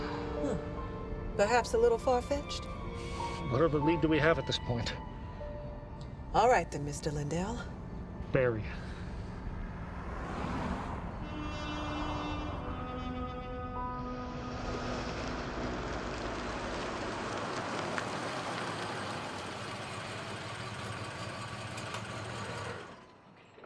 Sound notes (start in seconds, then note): 11.5 smooth jazz music; 18.0 tires crunching; 20.8 car rumbling